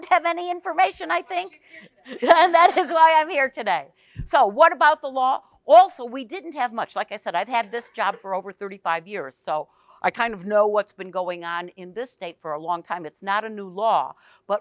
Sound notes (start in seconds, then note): 1.7 group chuckles